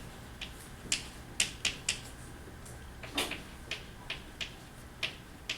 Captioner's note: chalk clicking on board